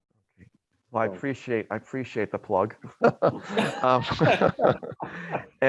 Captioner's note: laughs